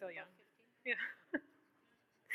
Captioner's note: laughs